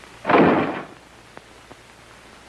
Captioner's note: door slams